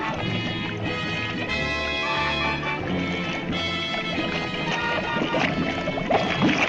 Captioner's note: suspenseful music continues; liquid bubbling; suspenseful music continues